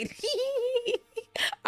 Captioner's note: laughing